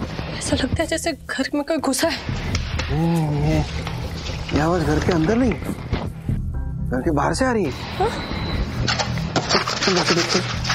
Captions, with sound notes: It sounds like someone broke into the house. No. The noise isn't from inside. - It's coming from outside. - Huh? [scraping] Let's check it out.